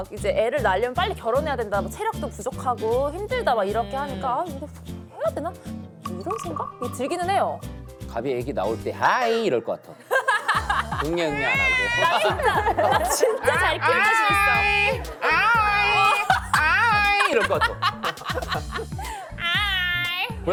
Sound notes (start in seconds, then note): 17.3 laughs